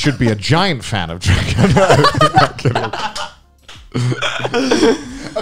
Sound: men laughing

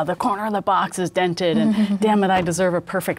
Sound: chuckles

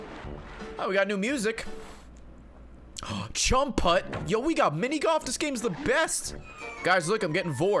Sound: gasps

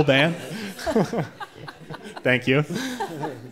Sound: audience laughing

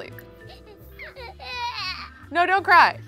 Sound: child crying

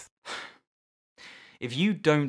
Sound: sigh

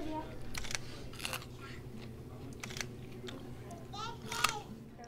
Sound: soft crunching

